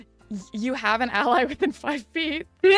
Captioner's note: laugh